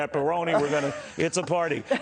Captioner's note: laughter